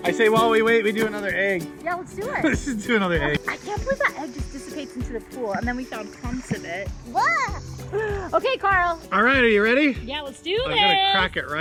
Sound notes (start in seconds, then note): 7.8 gags